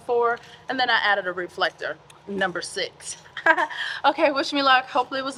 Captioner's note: laughs